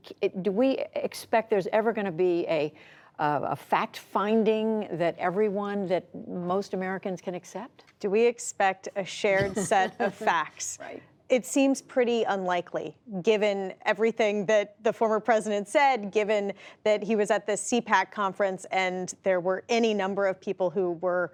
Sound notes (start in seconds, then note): 9.4 laughter